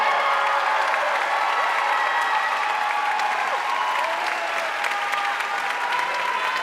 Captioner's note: audience cheering and applauding